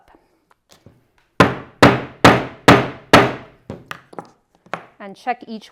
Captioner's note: mallet thudding